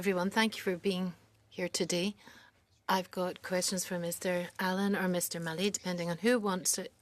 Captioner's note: speaking French